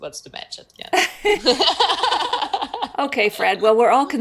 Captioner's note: both laugh